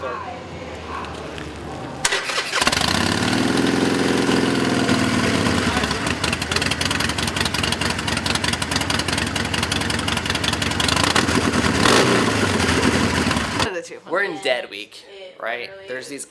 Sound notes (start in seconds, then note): 2.9 engine revving